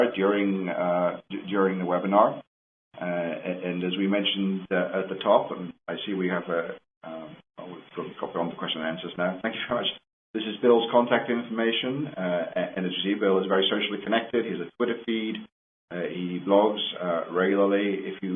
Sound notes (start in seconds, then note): none